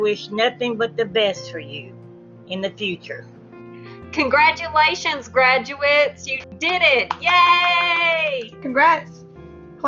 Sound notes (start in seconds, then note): 7.0 clappping